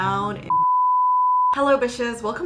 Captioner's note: beeping